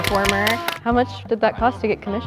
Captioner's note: applause